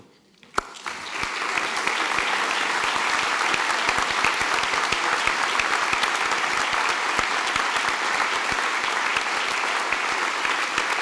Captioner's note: applause